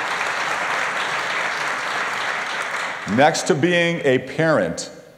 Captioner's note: applause